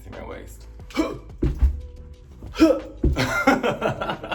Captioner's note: Naomi grunting; Naomi laughs